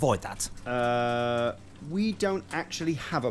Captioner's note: none